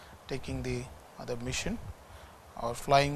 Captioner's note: distortion